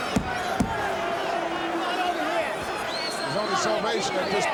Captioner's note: crowd murmuring